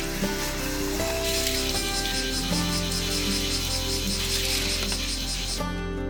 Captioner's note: cicada